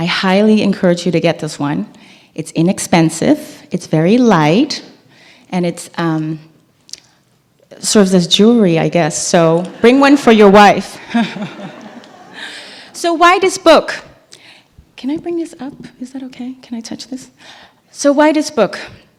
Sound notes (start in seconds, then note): 10.9 laugh